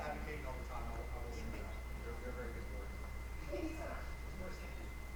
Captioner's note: mic cutting out